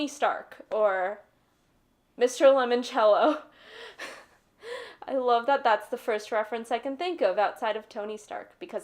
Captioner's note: laughing